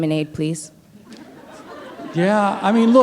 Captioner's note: laughter